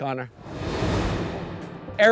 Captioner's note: graphics whooshing